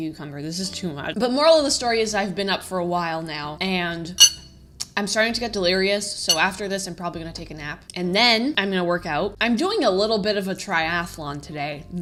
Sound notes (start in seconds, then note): 4.5 tongue click